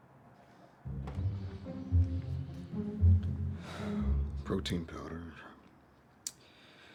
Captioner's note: breathes heavily